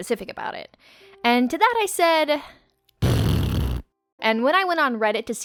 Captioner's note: blows raspberry